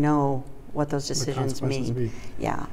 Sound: voiceover

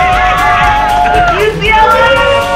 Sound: cheering

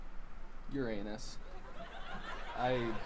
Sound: laughter

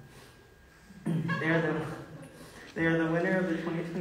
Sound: woman laughing

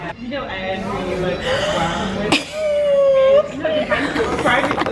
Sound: gasping

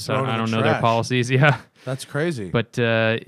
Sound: laughter

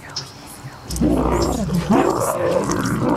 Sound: monster sound

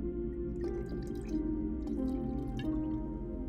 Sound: liquid pours

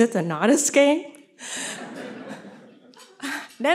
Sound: laughter

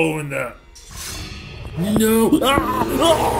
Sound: Dryphoon Beast growling

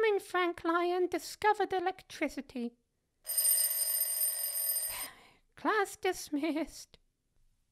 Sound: bell rings

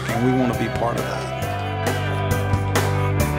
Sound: cheering; music: string & drum instruments

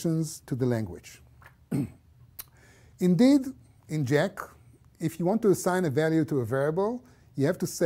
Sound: cough

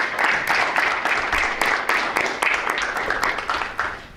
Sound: attendees applaud

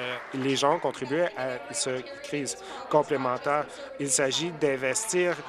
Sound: applause

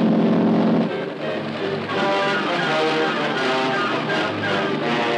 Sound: helicopter whirring

